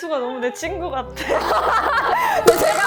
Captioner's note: hahaha